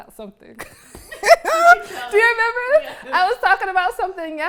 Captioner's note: laughs